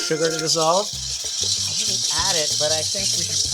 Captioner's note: whisks beating